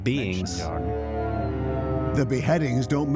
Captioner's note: howling